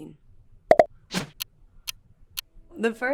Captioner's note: clock ticking